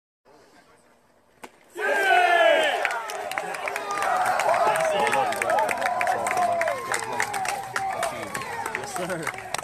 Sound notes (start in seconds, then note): 0.0 applause